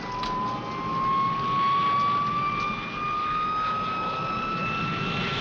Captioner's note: plane engine building intensity